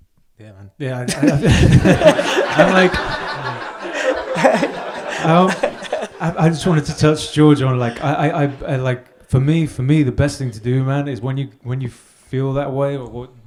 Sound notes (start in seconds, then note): 1.1 audience laughs; 1.1 laugh; 8.1 murmurs